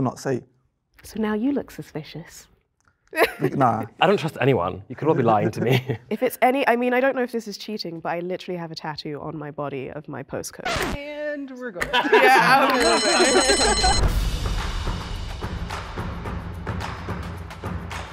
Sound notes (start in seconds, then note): 12.4 bell Rings; 14.4 laughing; 15.4 upbeat Music